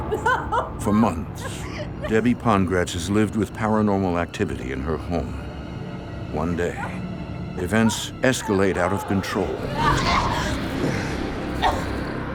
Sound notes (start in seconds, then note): 9.7 gasps